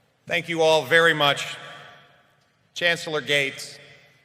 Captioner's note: none